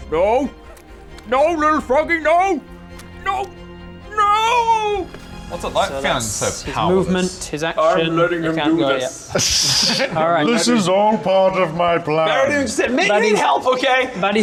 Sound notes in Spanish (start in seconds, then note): 9.2 Risa burlona